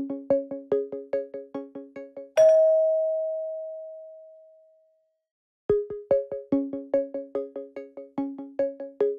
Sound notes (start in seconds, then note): 2.4 bell dings; 5.7 inquisitive electronic music